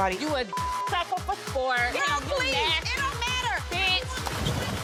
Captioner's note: beep